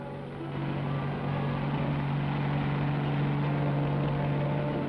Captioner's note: boat rumbling